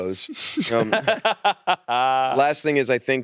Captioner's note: laughs